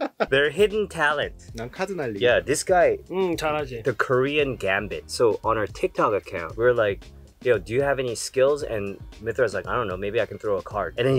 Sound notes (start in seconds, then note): 0.0 laughs; 1.7 speaking in Korean